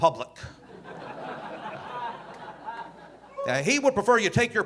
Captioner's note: audience laughing